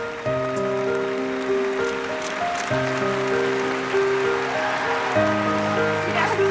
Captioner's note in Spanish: Aplausos; Clics de cámara